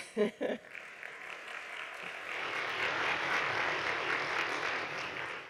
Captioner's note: audience clapping